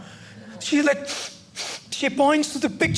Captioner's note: sniffling